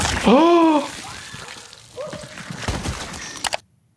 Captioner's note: body tearing; victim screaming; Jordan gasping; mouse clicking